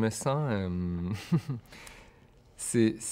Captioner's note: slight laugh